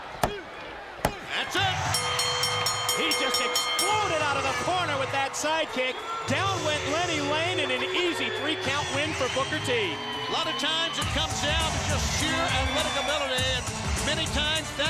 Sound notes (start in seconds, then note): 3.4 bell ringing; 4.5 crowd cheering